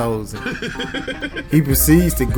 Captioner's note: laughing